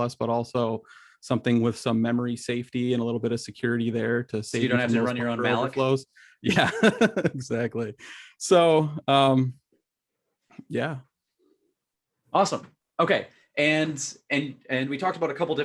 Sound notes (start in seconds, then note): 6.5 laughs